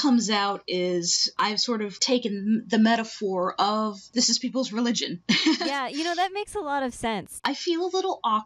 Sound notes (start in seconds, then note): 5.4 nervous laugh